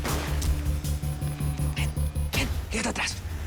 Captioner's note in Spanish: Disparos